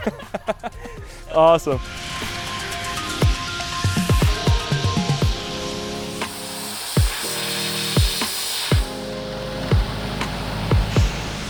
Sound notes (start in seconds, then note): 1.8 tool whooshing; 5.9 chill music